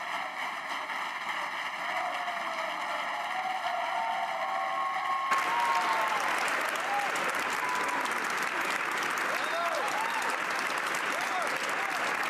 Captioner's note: applause